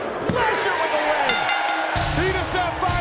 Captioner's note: bell rings